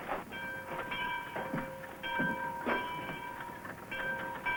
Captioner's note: church bell ringing